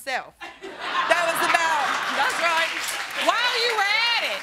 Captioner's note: audience laughs